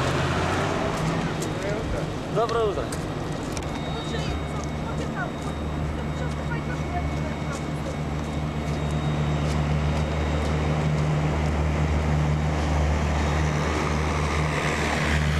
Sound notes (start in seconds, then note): 1.3 chatter